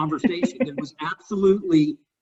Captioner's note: laughs